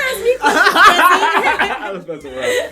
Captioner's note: laughter